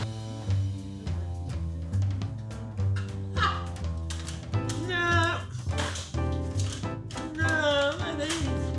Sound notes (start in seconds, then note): 0.0 upbeat jazz music; 4.1 laughs and sings